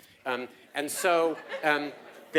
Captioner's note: laugh